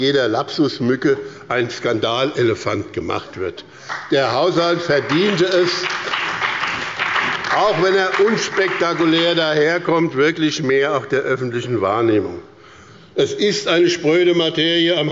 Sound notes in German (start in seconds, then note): 3.8 Beifall bei dem BÜNDNIS 90/DIE GRÜNEN und der CDU